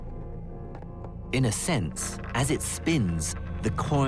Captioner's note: voiceover